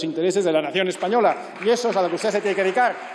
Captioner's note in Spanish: aplausos